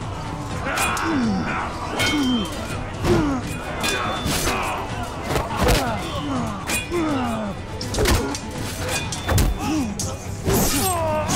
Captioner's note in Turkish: Çarpışma sesleri